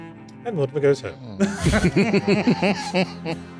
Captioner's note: laughter